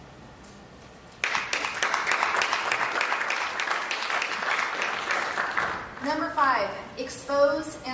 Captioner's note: applause